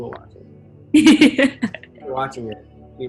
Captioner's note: laughs